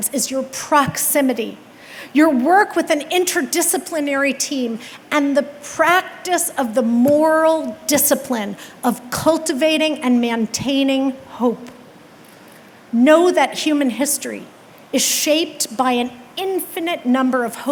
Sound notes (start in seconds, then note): none